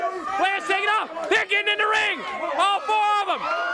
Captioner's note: crowd chatter